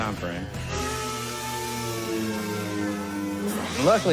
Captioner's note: tools whirring